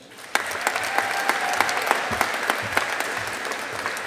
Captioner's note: audience applauding